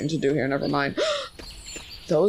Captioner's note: gasps